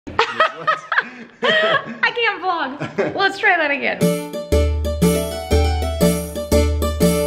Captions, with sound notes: (laughing) - I can't vlog. Let's try that again. (playful music)